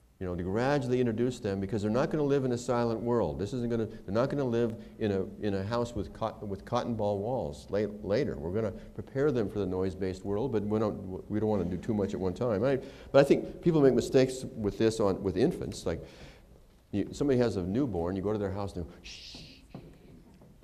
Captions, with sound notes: You know, you gradually introduce them because they're not going to live in a silent world. This isn't going to -- they're not going to live in a house with cotton ball walls later. We're going to prepare them for the noise-based world but we don't want to do too much at one time, right. But I think people make mistakes with this with infants, like somebody has a newborn and you go to their house and they're shh, [whispering ]